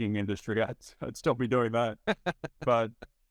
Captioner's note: laughing